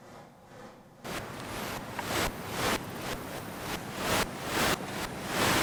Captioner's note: static crackling pulses